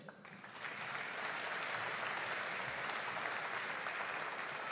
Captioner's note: audience applauding